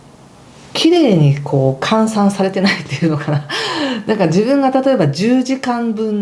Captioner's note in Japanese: 笑い